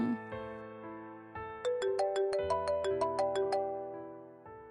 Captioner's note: phone ringing